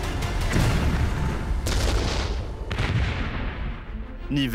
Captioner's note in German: Kanonenschüsse